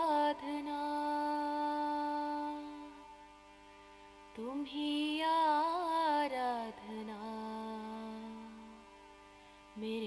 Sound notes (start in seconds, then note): none